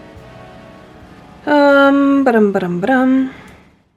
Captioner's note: singsong